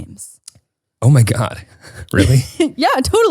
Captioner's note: laughs